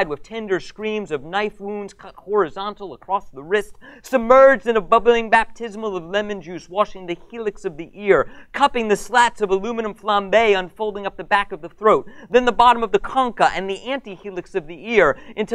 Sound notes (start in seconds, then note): none